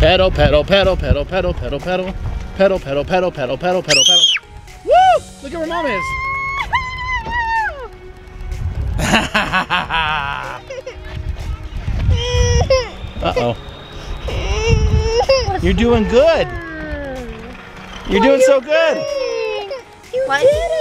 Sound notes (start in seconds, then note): 4.1 screams; 9.0 dad laughs; 12.1 crying